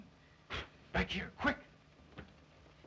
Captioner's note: blows